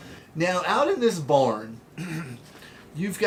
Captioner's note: clearing throat